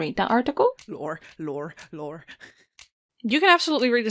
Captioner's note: laughs